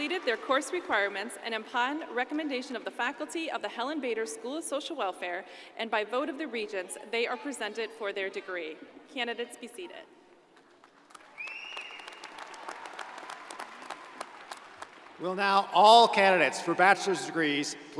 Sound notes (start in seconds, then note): 10.7 crowd applauding